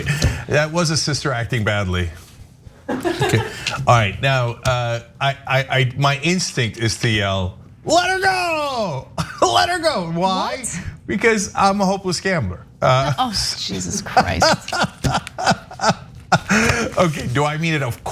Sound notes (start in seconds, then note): 2.9 laugh; 13.8 laugh